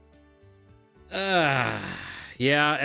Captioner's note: sighs